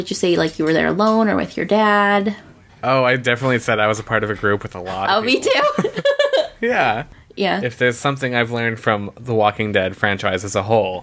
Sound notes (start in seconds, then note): 4.8 laughs